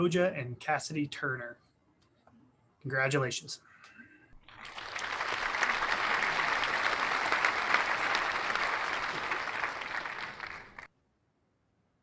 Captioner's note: clapping